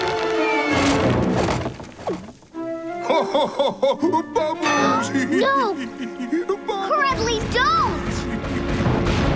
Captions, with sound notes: [laughing] - Bubbles! - No! - Bubbles! - Cragley, don't!